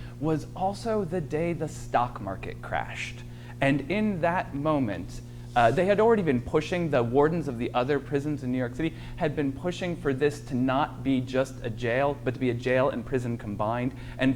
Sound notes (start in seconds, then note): none